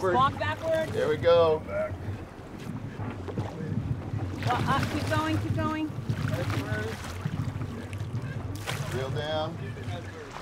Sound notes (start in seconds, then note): 4.2 fish splashing